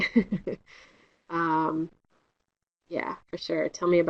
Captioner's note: laughter